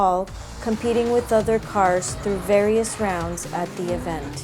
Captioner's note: engines rev